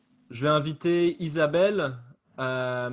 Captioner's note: in French: I'd like to invite